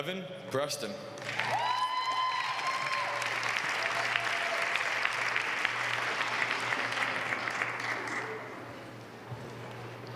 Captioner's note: applause